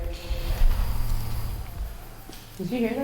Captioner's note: whisper